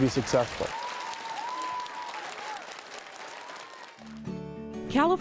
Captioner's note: applause